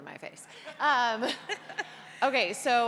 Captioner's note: laughter